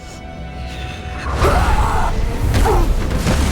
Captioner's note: roaring